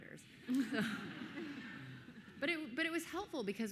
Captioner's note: everyone laughing